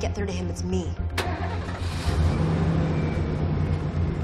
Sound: engine starts

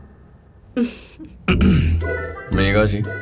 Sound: laughing; clears throat

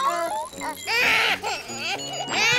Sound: crying

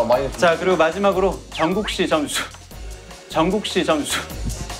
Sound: can't hold back the laugh

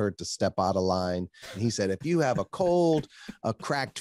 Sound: laughs

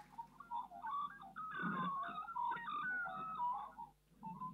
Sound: magpies singing

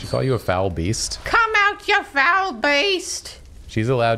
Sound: old hag voice

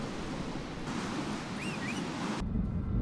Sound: whistle

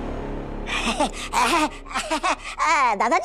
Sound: tittering

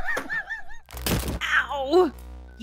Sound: crunch

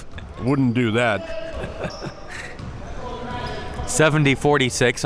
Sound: laughing

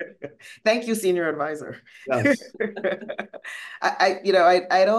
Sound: laughing

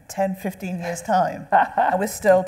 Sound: laughing

